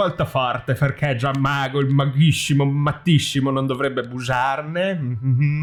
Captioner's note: suspicious moaning